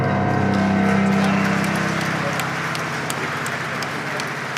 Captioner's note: audience applauding